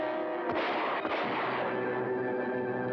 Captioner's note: two gunshots; sudden dramatic music; dramatic music